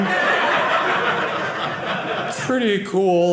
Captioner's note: audience laughing